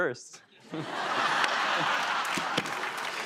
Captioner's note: laughter